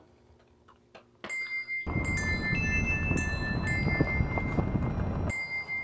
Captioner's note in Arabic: أجراس أنبوبية تدق